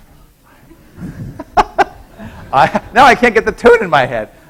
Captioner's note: laughing